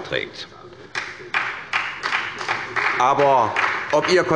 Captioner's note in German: Beifall bei der SPD